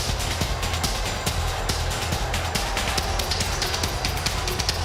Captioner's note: audience jeering